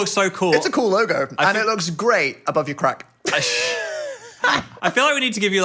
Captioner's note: laughs